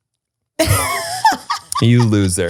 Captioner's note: laughs